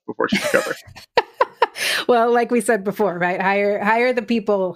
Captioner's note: laughs